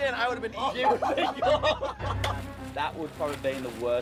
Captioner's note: laughing